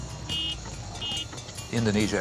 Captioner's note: horns honking